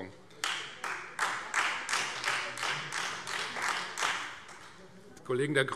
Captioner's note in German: Beifall Freie Demokraten